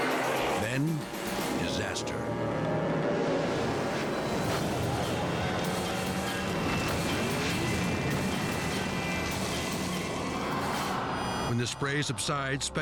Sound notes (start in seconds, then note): 2.3 tense music; 6.3 boat crashes